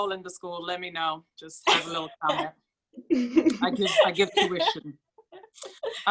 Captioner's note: laughs